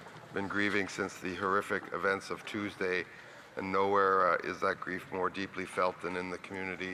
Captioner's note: speaking French